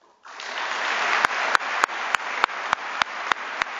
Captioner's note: applause